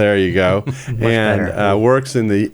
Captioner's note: laughs